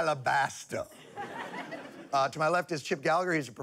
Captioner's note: laughter